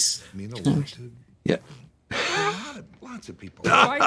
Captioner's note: laughing